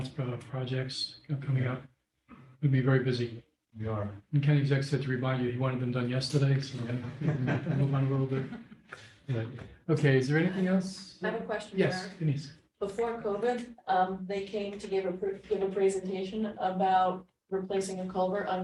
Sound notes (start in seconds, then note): 6.8 laughter